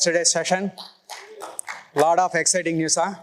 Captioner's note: cheers, applause